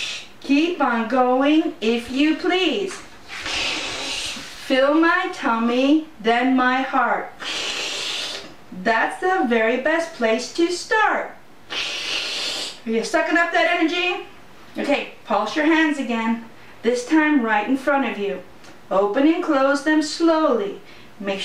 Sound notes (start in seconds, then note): 3.3 sucking sound; 11.7 sucking sound